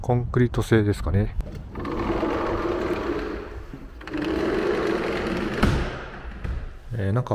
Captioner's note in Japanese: ドアの開閉音